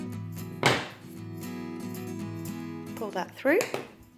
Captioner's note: scissors banging